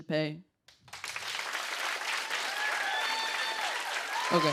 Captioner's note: cheers and applause